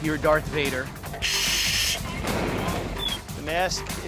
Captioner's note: mask breathing